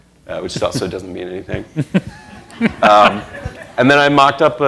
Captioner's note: laughter